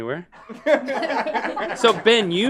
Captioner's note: laughing